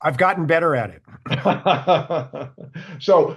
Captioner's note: laughing